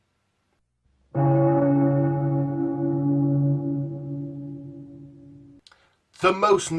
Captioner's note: funeral bell